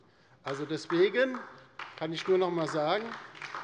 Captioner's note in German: Beifall bei der LINKEN